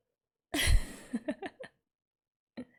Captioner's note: laughs